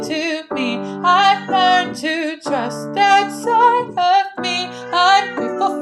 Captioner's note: cat meow; singing; cat meow; singing; cat meow